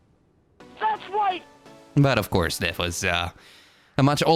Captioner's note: shouting